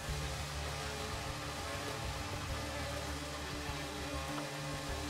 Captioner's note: machine whirring